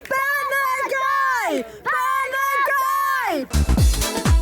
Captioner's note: Crowd shouting "Burn the Guy!"; funky music